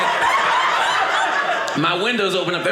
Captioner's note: audience laughing